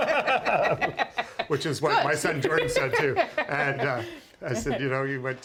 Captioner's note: laughter